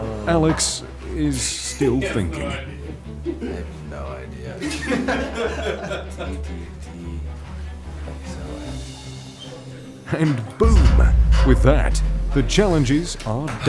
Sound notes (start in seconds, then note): 4.6 laughter